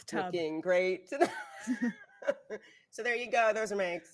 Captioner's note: laughing